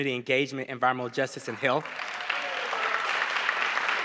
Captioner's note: applause